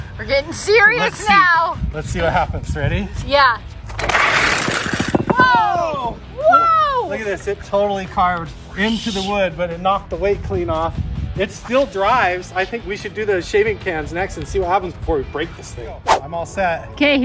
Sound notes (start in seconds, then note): 4.0 RC car whirring